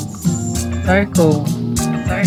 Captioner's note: recorded Voiceover